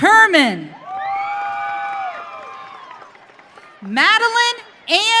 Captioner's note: audience cheering